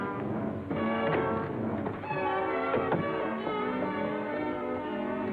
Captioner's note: feet thudding